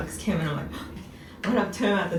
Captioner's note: gasp